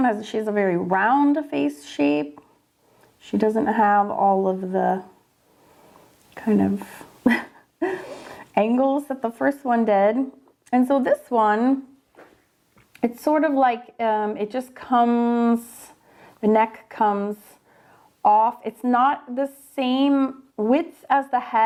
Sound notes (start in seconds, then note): 7.2 laughing